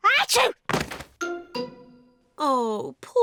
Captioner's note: sneezes